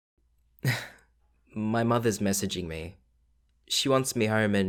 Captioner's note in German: Kichern